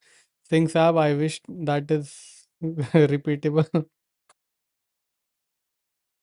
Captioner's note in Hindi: हंसी